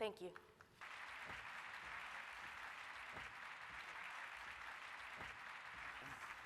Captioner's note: applause